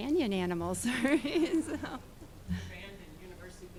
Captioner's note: laughing